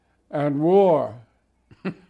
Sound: chuckles

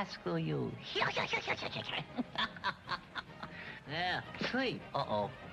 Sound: puppet laughing

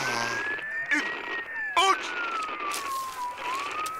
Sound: sighing; CB connection breaking up

